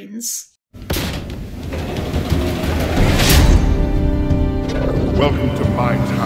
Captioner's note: creaking Metal